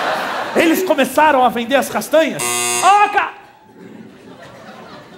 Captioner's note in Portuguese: campainha